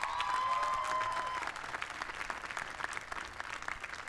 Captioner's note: applause